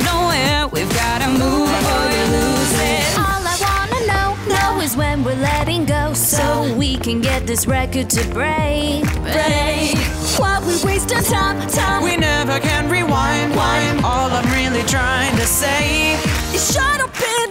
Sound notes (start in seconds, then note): 12.7 wind